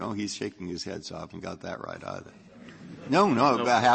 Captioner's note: laughter